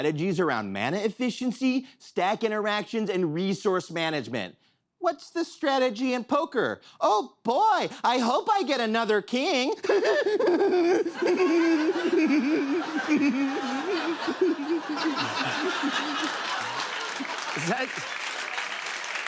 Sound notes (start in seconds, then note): 9.8 squirrelly laugh; 11.6 laughter; 15.0 laughter; 15.3 applause